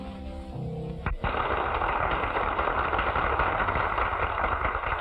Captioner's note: applause